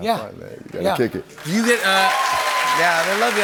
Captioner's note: cheers and applause